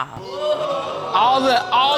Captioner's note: audience exclaiming